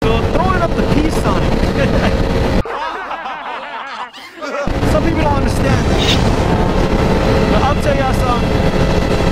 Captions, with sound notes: throwing up that peace sign Hehe [ahh haha hehe] So people don't understand it I'll tell ya something